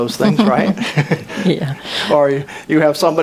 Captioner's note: chuckles